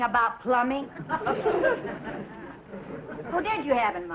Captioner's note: audience laughing